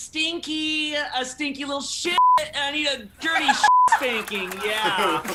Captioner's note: beep